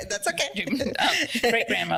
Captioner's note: laughs